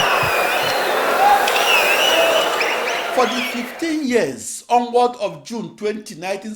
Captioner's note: wild applause and cheering for 22 seconds